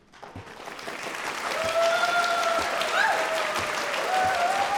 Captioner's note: audience cheering